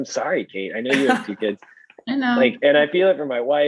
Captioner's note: laughing